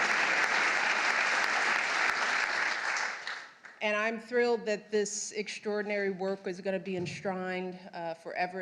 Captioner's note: applause